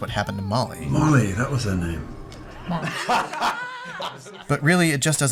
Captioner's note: laughing